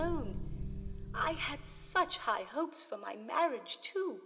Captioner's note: dark, ambient noise fades out